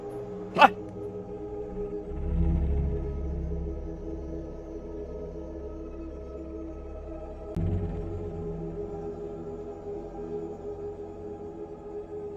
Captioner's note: chanting, muted